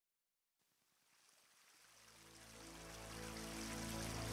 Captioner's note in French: ruissellement d’eau